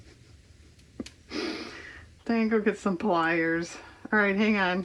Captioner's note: laughs